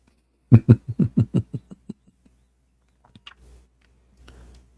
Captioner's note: Ketawa